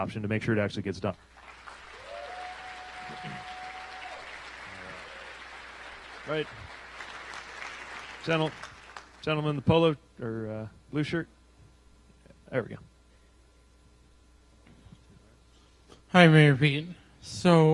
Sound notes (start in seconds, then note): 6.4 applause